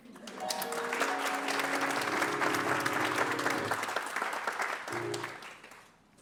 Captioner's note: applause